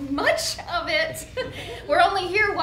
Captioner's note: chuckles